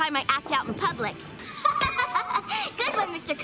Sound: laughing

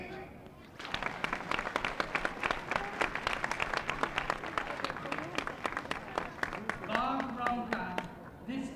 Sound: applause

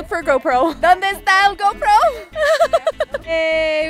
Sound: in Spanish

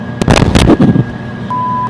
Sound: crash

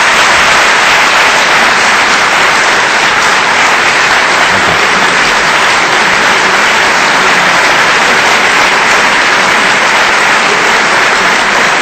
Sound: audience applause

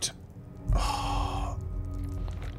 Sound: heavy breathing

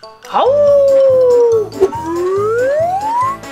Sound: howls

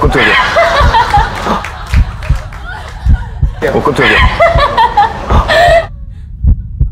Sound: sound of laughter from somewhere

